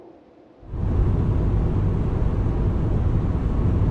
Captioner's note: car rumbling